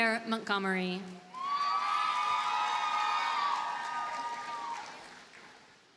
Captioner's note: audience cheers and applauds